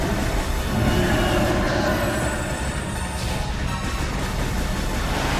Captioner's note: creature roaring; intense dramatic music; guns blasting